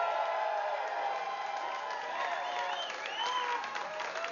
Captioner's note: vítores y aplausos